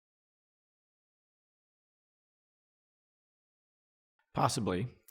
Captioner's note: silence